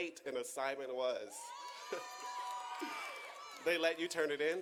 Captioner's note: audience cheering